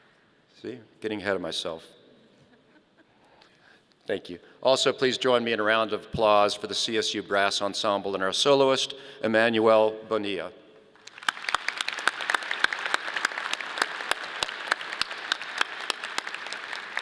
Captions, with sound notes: See, I'm getting ahead of myself. (audience laughing) Thank you. Also, please join me in a round of applause for the CSU brass ensemble and our soloist, Emmanuel Bonilla. (audience applauding)